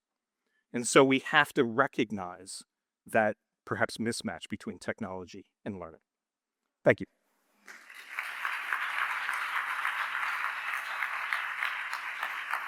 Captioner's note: applause